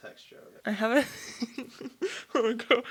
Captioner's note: laughs